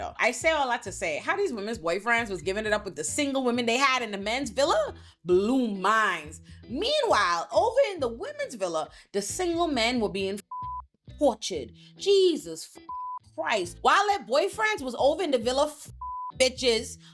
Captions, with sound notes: I say all that to say how these women's boyfriends was giving it up with the single women they had in the men's villa, blue minds. Meanwhile, over in the women's villa, the single men were being (beep) tortured, Jesus Christ. While their boyfriends was over in the villa, (beep)